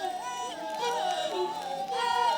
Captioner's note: fire crackling